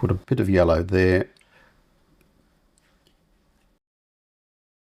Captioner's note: silence